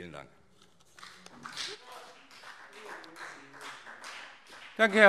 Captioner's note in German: Beifall BÜNDNIS 90/DIE GRÜNEN und CDU